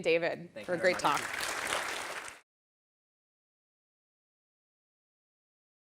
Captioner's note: audience applauding